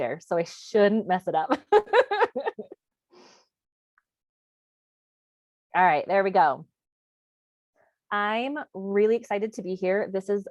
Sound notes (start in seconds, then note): 1.6 laughs